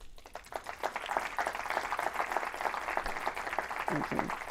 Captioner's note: audience applauds